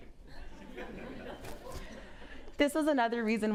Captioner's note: audience laughs